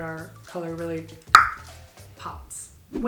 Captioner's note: clicks tongue